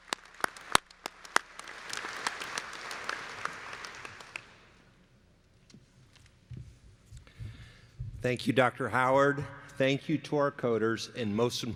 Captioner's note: applause